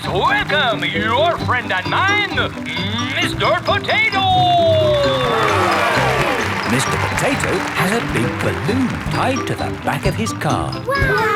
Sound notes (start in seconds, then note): 5.8 cheering